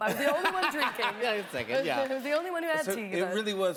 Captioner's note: laughter